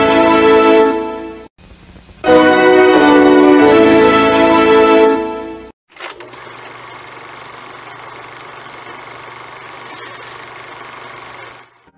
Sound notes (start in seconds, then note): 5.9 film projector rolling